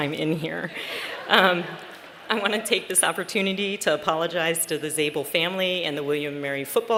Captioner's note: laughter